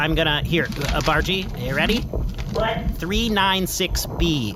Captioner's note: ruffles paper